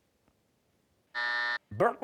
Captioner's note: buzzer